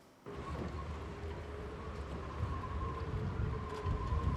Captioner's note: wind